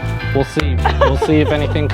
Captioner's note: laughing